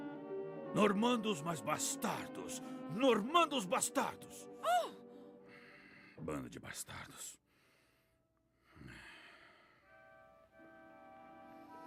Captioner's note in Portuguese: suspirando